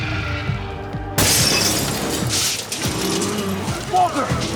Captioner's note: intense music continues; glass shatters